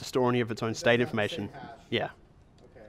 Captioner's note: voiceover